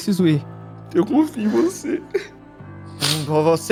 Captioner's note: crying